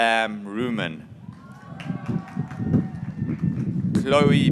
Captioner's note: graduates cheering